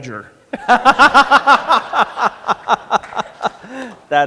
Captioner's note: laughter